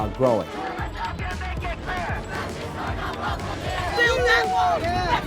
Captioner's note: crowd chanting